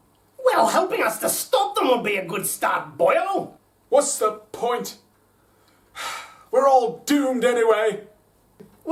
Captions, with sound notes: Well, helping us to stop them would be a good start, boyo! What's the point? [Sighs] We're all doomed anyway!